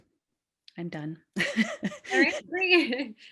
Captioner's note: laughs